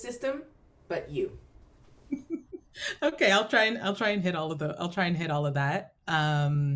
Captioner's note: laughs